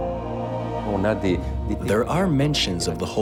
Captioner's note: speaking in a foreign language